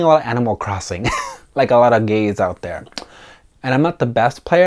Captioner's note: chuckles